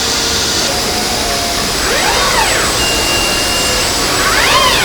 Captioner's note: screaming